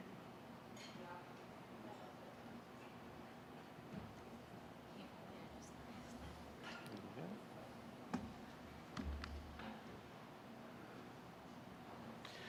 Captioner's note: soft general chatter